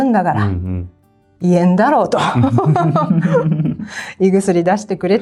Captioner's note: laughs